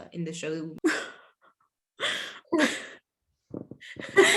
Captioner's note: laughs